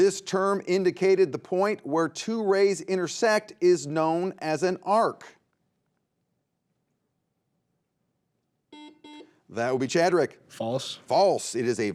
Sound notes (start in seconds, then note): 8.7 buzzer beeps